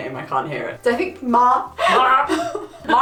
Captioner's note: laughs